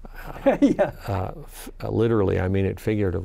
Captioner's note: laughs